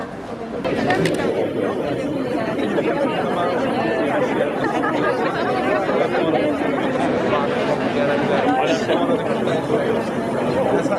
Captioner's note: milling crowd